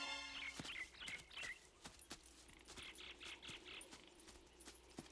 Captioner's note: birds chirping